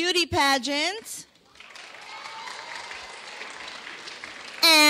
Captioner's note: clapping